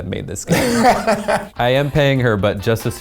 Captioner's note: laughs